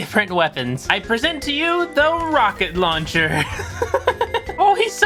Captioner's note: laughter